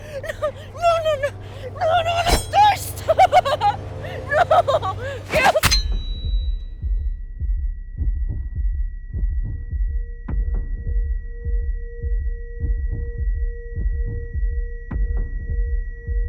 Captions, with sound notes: No... No, no, no. No, I don't wanna die! Stop! No! Gale-- [blade piercing flesh] [high pitched-ringing] [heart beat]